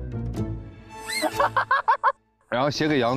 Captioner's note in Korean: 하하하하